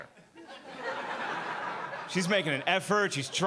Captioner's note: audience laughing